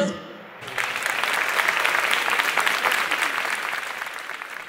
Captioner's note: applause